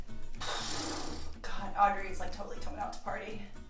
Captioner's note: exhales loudly